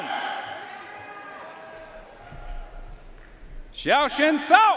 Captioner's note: audience cheering and applauding